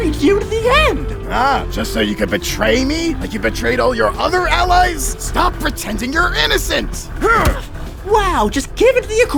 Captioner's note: yells